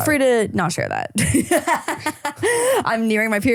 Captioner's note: laughing